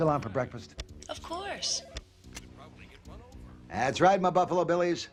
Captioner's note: phone ringing